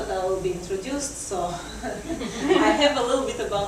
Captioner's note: laughter